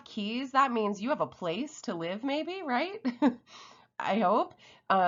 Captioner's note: chuckles